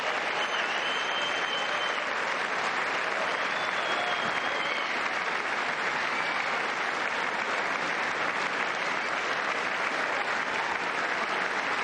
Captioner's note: cheers and applause